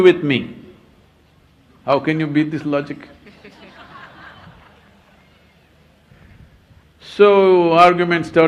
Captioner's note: laughter